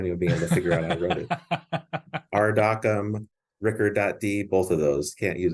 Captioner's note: laughs